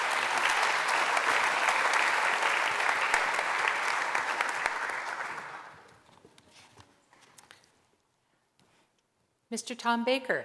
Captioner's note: applause